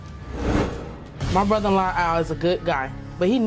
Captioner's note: voiceover